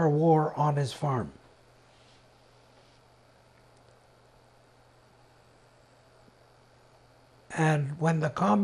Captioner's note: pauses 6 seconds